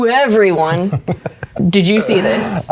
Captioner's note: laughing